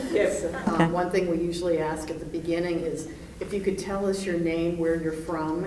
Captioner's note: laughter